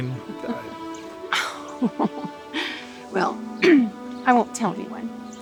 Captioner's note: laughs